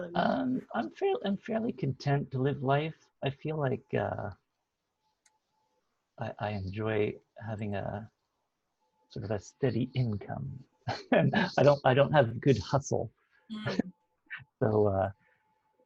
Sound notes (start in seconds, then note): 10.9 laughs